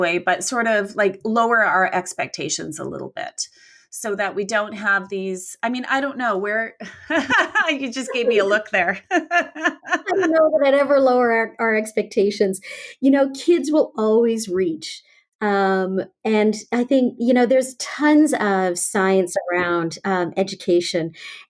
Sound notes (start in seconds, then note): 6.9 laughs; 9.1 both laugh